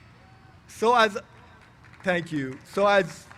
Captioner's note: applause